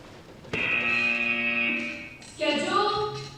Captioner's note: buzzer